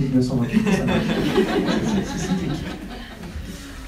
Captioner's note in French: rires